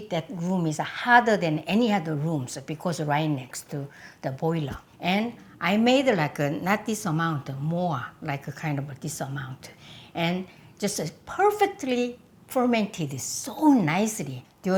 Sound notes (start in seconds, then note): none